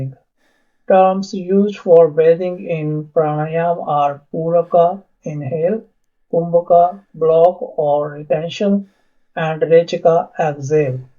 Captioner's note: inhale; exhale